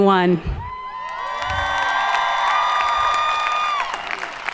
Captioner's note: audience cheering